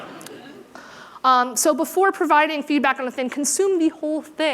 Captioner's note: laughter